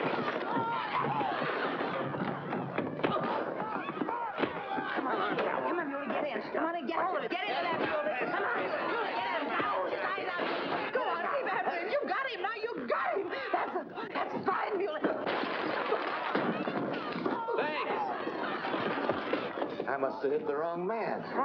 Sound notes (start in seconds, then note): 0.0 smash; 0.2 commotion & struggling; 4.7 patrons cheering; 7.2 struggling & commotion; 10.8 patrons cheering; 15.1 bottle smashing